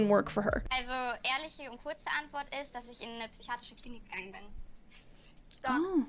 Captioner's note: show contestant speaking in German